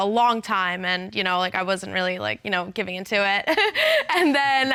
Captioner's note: chuckles